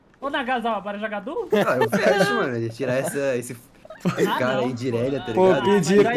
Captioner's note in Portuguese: risos